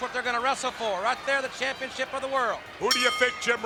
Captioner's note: bell ringing